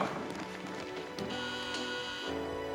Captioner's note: doorbell buzzes